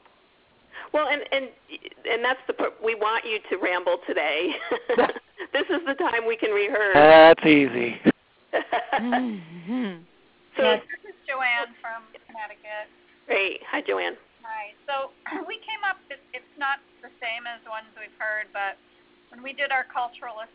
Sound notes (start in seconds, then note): 4.5 laughs; 8.5 laughter